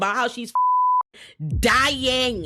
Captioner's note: beep